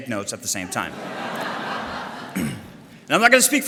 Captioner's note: audience laughter